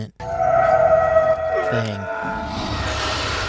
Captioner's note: roaring